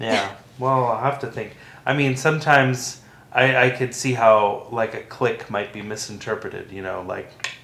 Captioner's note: click mouth sound